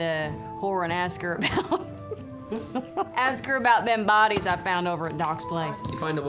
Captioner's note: laughs